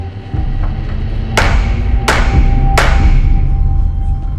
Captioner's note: tense music continues; gavel banging